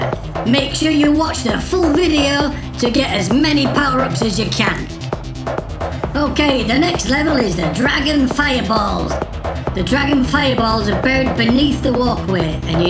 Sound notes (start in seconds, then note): none